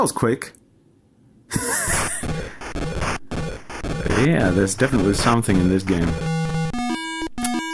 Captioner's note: laughter